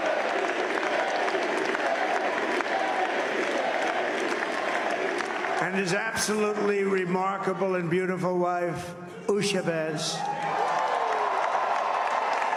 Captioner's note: cheers and applause